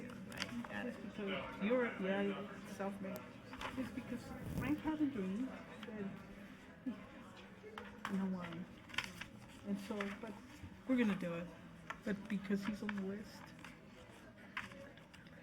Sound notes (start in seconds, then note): 3.0 speaking faintly